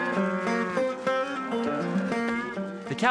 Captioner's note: cows moo